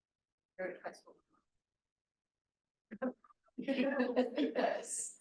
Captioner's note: audience chattering